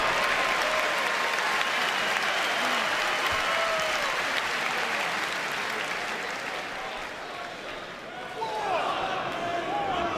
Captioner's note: cheers and applause